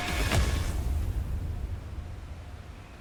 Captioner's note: thud